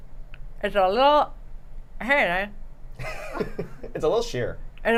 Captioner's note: laughter